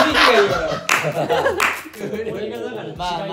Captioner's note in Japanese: スタッフ爆笑